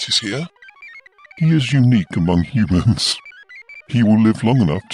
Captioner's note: laughs